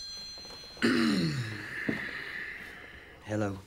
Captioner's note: clears throat